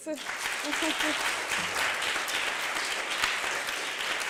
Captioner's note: applause